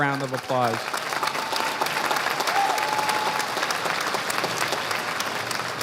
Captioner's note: audience applauding